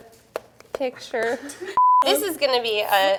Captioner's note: beep